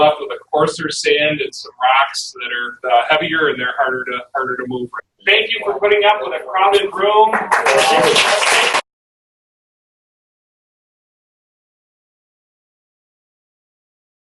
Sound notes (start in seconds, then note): 7.2 applauding